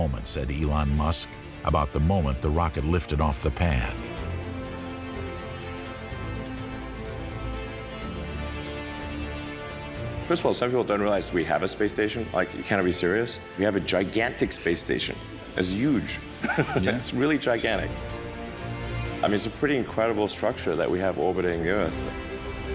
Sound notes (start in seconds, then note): 16.3 chuckles